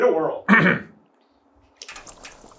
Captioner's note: clears throat